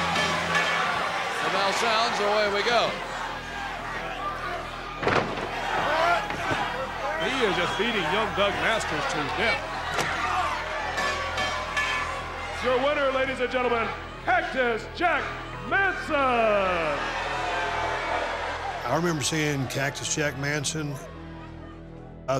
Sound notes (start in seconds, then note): 0.0 bell rings; 10.9 bell rings; 17.2 cheers and applause